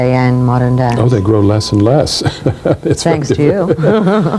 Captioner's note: laughs